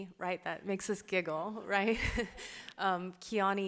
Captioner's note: laughs